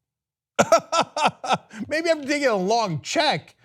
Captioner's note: laughter